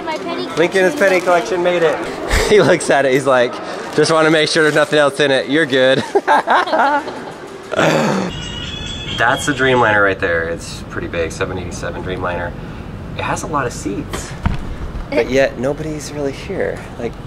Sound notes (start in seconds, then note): 5.9 laughs